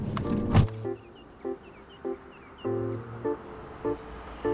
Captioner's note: birds chirping; gentle music